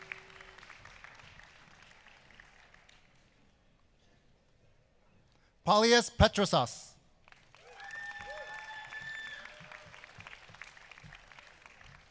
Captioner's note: applause